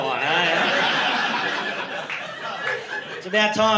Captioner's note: laughter